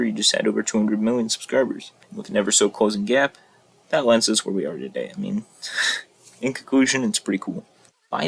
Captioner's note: scoff #3